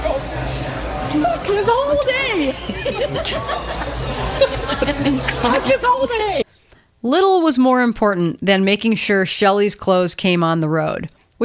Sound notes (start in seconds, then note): 5.9 laughs